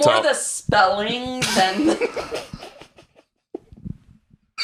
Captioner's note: giggles